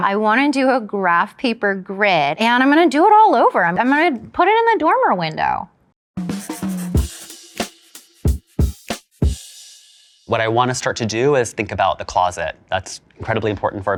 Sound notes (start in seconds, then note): 6.2 jazz music; 6.4 pencil scribbling